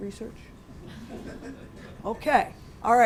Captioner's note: laughter